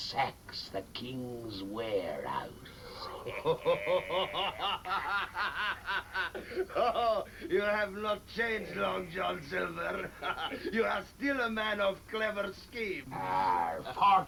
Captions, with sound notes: and sacks the King's warehouse. (laughing) - You have not changed, Long John Silver! You are still a man of clever schemes.